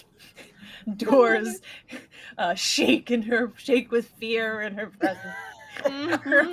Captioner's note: chuckles